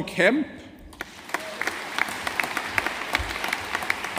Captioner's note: audience applauding